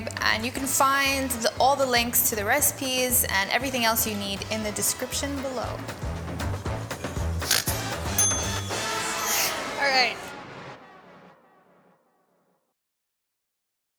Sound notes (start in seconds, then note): 7.7 snoorts; 8.1 bell dings